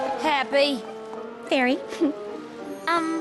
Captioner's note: chuckles